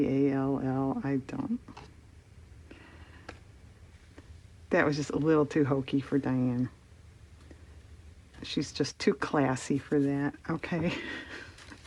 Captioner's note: laughs